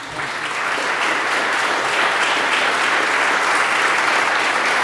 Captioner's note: applause